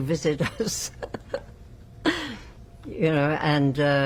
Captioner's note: laughing